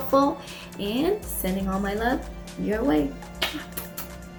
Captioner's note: smooches